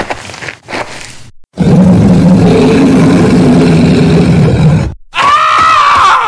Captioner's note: Roar